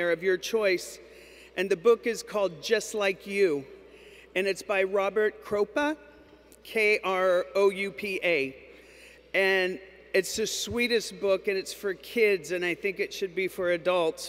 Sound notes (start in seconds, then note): none